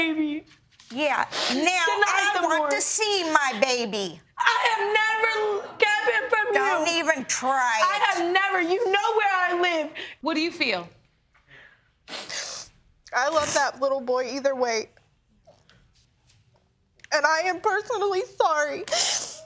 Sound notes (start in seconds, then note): 12.0 sniffles; 18.6 sobbing